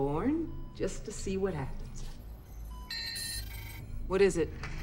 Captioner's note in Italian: suoni intermittenti